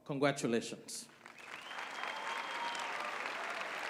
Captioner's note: applause